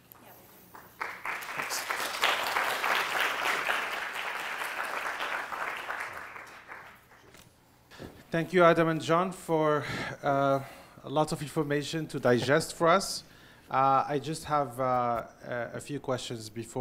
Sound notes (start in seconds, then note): 0.1 audience claps